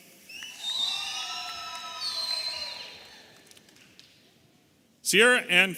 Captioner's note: audience applauding and cheering